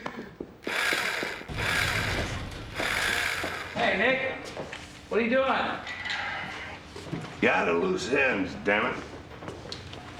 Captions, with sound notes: (drill whirring) - Hey, Nick, what are you doing? - I'm at loose ends, damn it.